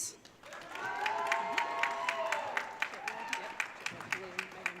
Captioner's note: audience cheering